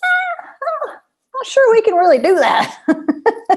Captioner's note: laughter